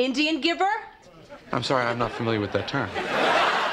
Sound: laughter

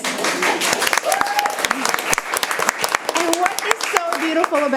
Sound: people clapping

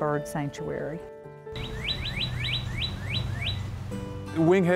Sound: birds chirping

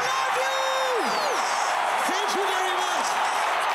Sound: crowd cheering

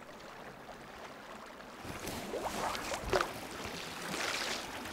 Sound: water rushing

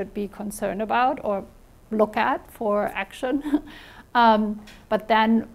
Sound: chuckles

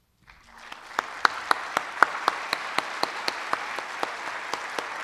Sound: audience applauds

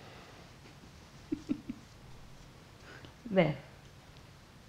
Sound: chuckles

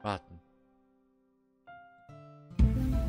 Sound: waiting, silence and me

